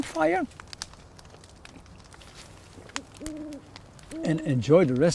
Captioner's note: fire crackling; owl hooting